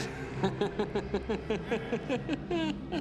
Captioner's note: laughing